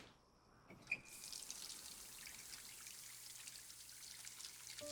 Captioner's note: water splashes